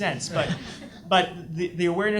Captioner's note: audience laughs